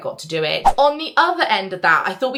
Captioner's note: screen fwipping